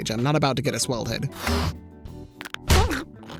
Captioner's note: air puffs; whimpering